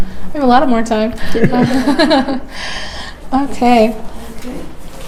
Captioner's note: chuckles